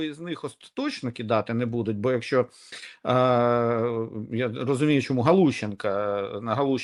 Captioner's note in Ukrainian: сопіння